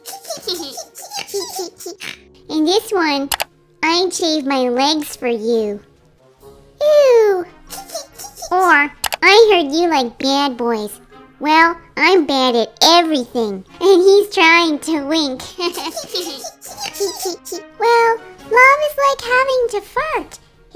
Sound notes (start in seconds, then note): 0.0 giggle; 7.6 giggle